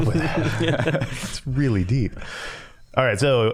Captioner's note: all laughing